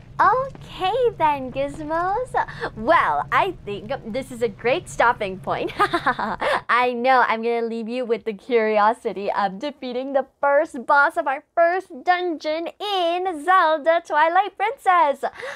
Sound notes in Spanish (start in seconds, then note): 5.7 risa malévola